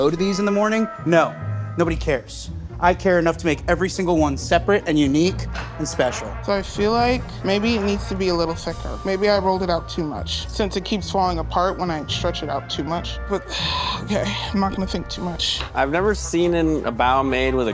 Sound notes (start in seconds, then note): 7.1 lively music continues; 13.5 sighing